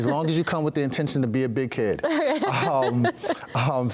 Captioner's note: interviewer laughs